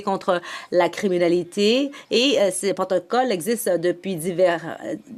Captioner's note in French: voix de l'interprète